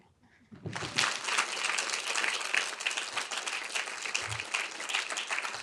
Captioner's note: audience applauding